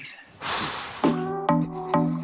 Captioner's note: exhales loudly; upbeat music